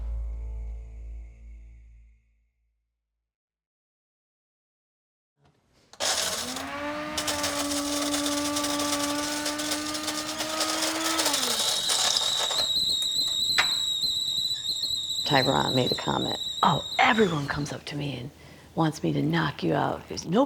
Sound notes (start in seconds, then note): 6.2 blender whirring; 11.9 kettle whistling